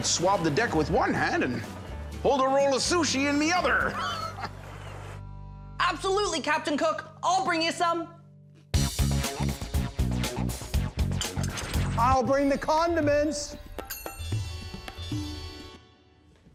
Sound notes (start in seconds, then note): 3.8 laughs